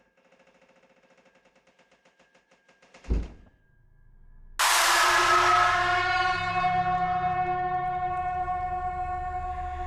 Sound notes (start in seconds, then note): 3.5 object thudding; 4.6 sudden screeching music